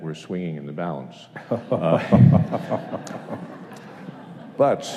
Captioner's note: chuckles